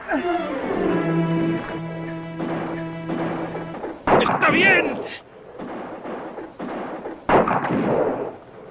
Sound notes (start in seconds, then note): 5.5 guns fire